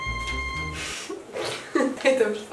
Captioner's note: laughs